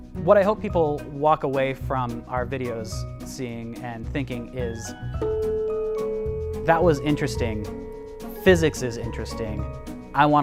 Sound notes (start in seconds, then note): 5.2 bell ringing